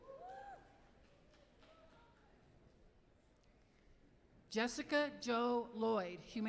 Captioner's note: applause